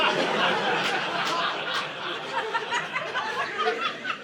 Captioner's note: audience laughing